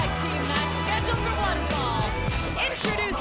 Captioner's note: bell ringing